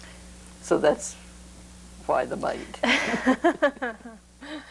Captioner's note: laughter